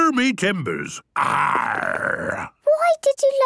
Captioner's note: menacing voice; he growls